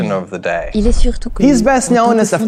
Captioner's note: whoosh